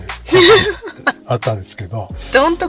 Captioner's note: laughs